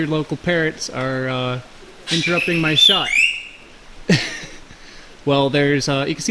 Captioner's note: laughs